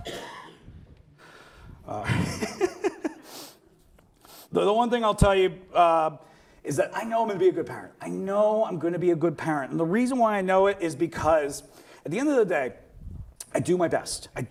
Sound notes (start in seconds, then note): 2.0 laughs